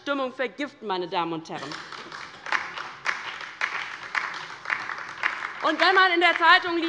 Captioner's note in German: Beifall bei der LINKEN und Abgeordneten der SPD